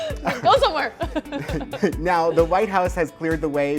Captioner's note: both laugh hard